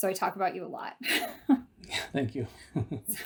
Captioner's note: laughter